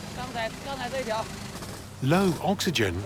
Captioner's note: speaking Tibetan